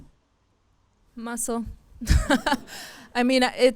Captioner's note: laughs; audience laughs